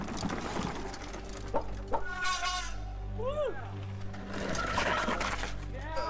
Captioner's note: friends cheering